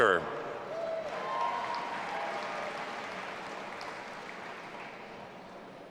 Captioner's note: audience applauding and cheering